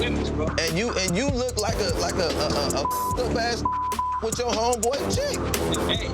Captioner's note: beep